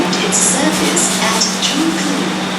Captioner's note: R151 air brake sound